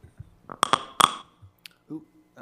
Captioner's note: object clanging